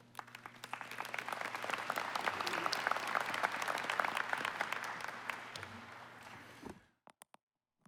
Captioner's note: applause